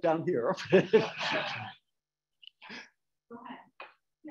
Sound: audience laughing

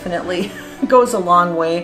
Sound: giggling

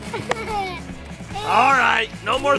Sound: laughs

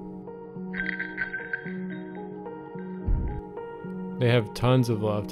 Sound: bell ringing

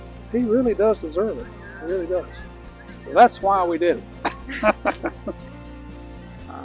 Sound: laughs

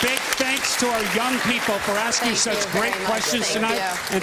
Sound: applause

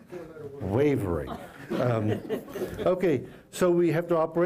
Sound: laughter

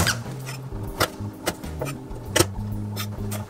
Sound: crunchy sound

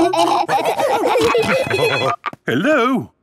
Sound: laughing; phone ringing

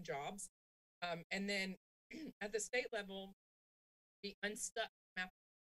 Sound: clears throat

